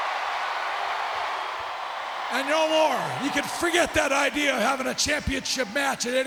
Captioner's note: applause